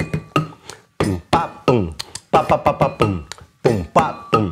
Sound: vocalizes rhythm

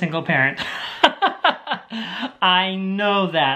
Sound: laughs

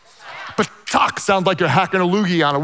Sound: speaks in foreign language

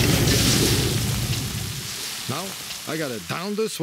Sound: explosion; sizzling

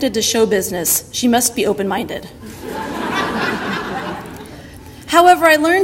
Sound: audience laughter

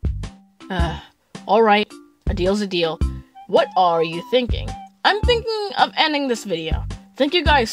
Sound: sighs

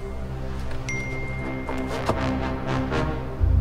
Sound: ding

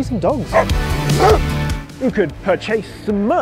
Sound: dogs bark

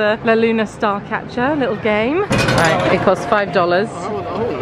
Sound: coins rattling

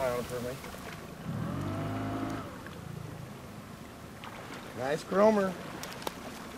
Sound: boat engine running; fish splashing

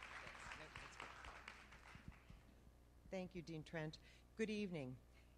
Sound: applause

